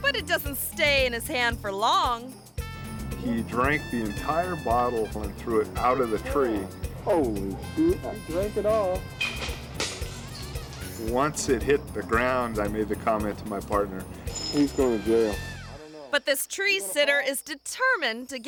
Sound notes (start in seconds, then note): 9.2 bottle shatters